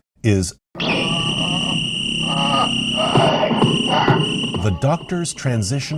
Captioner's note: pained moans